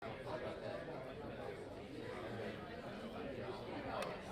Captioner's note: crowd chattering